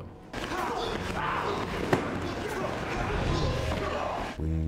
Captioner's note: all grunting